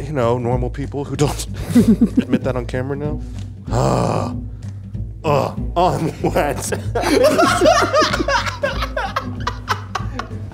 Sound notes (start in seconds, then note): 3.7 groaning; 5.9 cackling